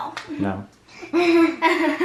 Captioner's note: laughs